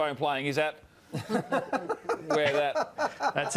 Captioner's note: laughs